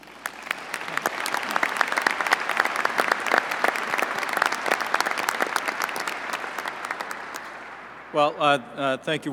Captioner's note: applause